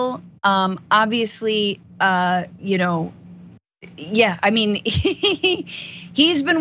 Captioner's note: laugh